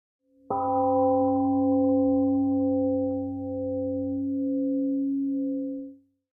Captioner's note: temple gong rings and fades